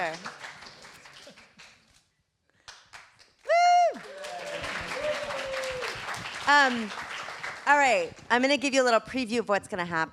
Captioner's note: applause